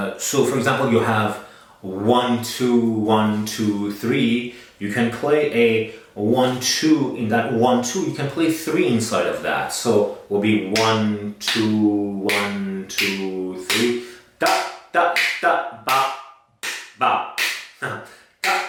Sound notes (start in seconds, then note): 12.9 claps; 17.2 laughs